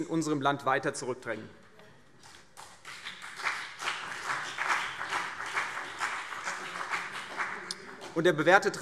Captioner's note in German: Beifall CDU und BÜNDNIS 90/DIE GRÜNEN